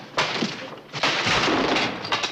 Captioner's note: clattering